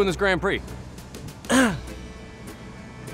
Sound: clears throat

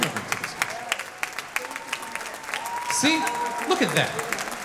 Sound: audience clapping

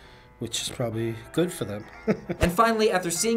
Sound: chuckles

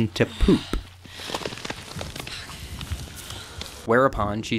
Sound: Sattler grunts

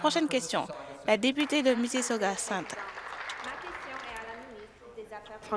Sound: some Applause

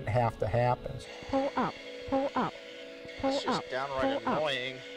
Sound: automated voice from cockpit

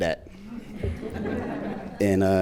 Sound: audience laughs

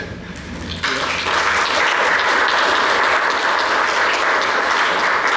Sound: applause

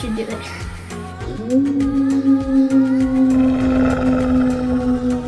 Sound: wolf howling

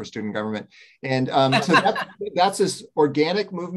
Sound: laughs

